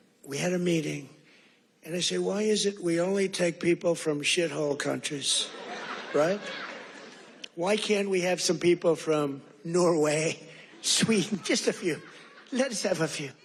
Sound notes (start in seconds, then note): 7.6 laughter